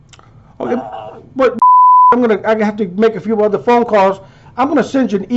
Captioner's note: beep